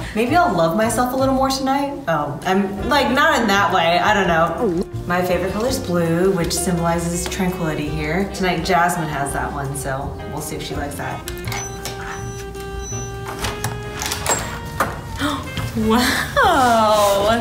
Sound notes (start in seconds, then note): 11.3 beeps; 15.1 gasps